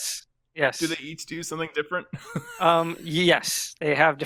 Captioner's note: laughs